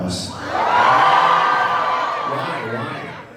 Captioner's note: crowd cheers